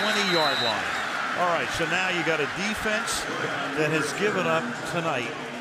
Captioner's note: pa announcement